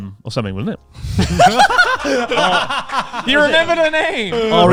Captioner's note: all laughing